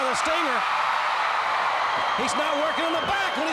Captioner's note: crowd cheering